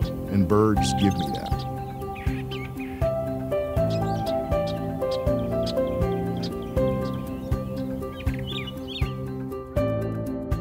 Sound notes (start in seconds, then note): 3.1 birdsong